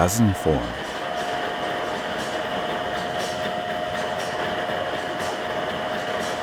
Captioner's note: machine chugging and whirring